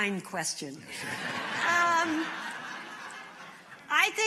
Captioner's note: laughter